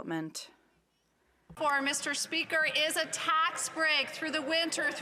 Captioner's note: some Applause